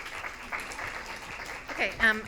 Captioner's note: audience applauding